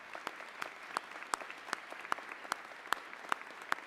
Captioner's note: applause